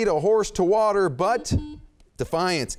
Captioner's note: beep